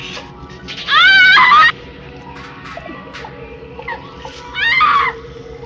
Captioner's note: screaming